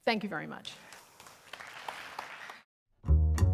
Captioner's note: applause